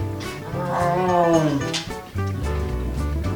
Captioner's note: growling noise